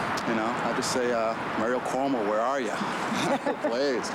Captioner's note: laughs